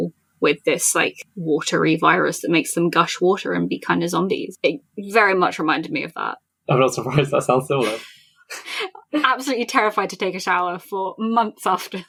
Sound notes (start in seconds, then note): 6.7 laughs